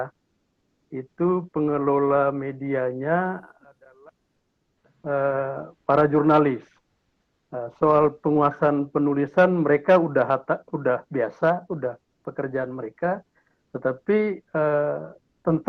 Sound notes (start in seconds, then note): 6.0 speaking indonesian